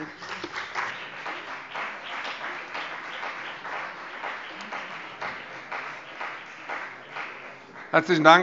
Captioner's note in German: Beifall CDU und BÜNDNIS 90/DIE GRÜNEN